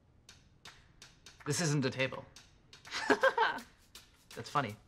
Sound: laughs

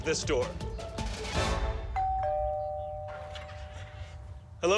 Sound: doorbell rings

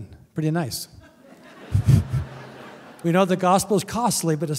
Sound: laughter

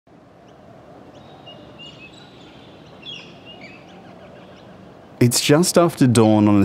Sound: wind, birds chirping

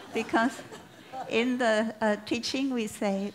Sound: laughter

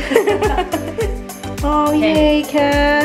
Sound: laughing

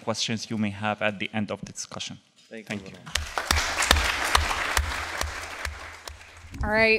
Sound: applause, then fades out

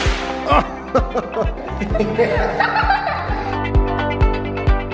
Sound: laughter

